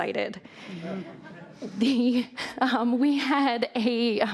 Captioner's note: audience laughs